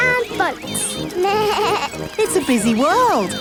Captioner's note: bleats